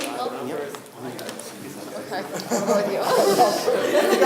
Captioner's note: students chatter; laughing